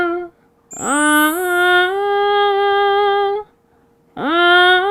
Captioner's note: A delicate sound ringing out gracefully